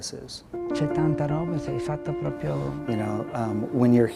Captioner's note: speaking in foreign language